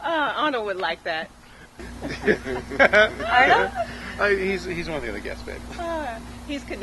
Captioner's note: laughter